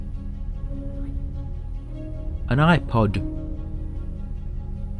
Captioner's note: phillips whispers